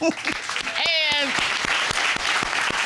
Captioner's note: chuckles softly; all applaud